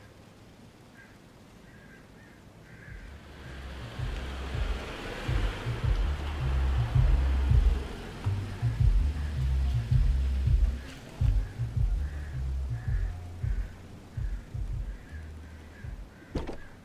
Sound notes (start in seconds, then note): 0.1 crows cawing; 4.2 upbeat music on car radio; 4.2 vehicle humming